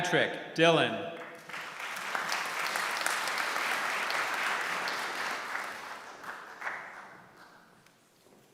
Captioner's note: applause